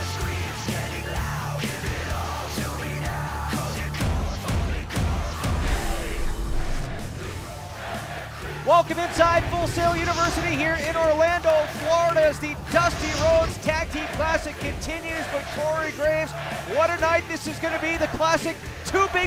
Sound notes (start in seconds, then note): 8.4 fans chanting